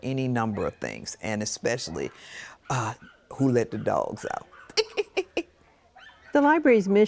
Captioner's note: laughs